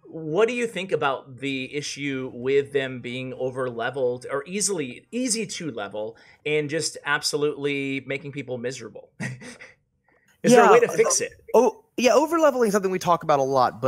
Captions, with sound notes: What do you think about the issue with them being overleveled, or easily, easy to level, and just absolutely making people miserable? (laughs) Is there a way to fix it? - Yeah. Yeah, overleveling's something we talk about a lot,